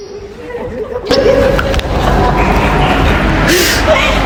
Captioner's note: sounds of laughter